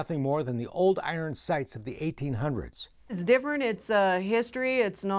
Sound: none

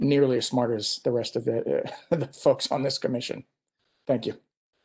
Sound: laughter

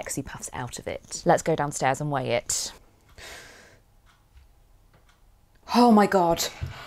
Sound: tense pause

